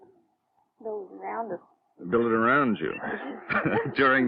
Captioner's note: laughter